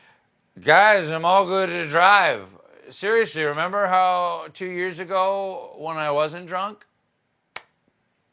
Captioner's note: as drunk man